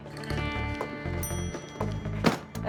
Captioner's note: ding